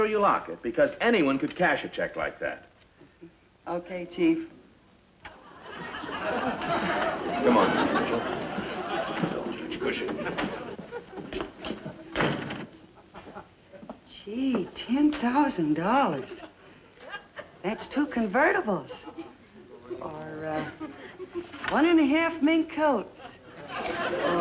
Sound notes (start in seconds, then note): 5.3 audience laughs